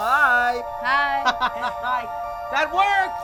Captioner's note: boy laughing